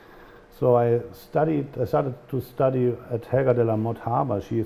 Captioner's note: german